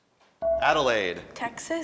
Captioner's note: buzzer dings